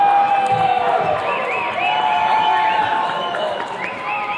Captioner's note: attendees cheering